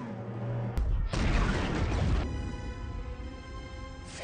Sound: explosion

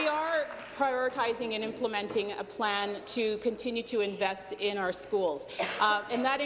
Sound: some Applause

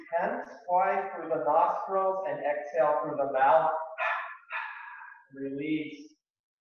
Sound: exhaling twice

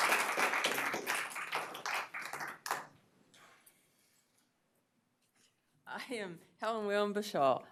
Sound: applause

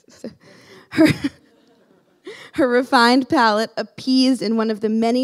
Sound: laughing

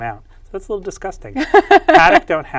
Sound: laughs

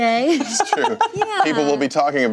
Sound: laughing

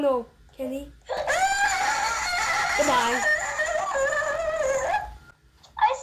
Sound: screams

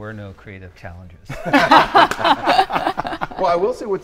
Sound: group laughing

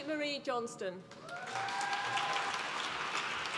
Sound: applause

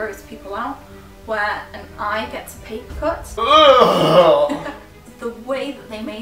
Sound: groans in disgust

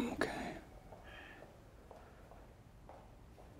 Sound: footsteps

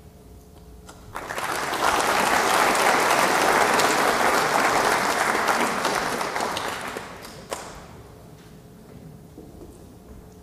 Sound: applause

